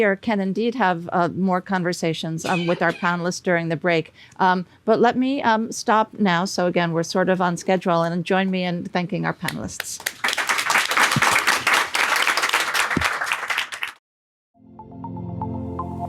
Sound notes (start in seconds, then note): 10.0 audience applause; 14.6 calm music